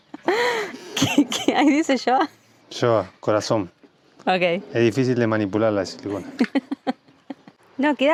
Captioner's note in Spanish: risas